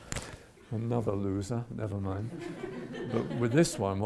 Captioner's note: audience chuckles